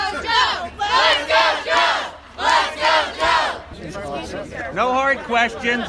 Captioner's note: crowd